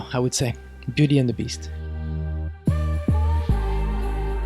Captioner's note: voiceover